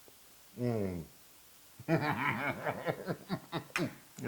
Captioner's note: laugh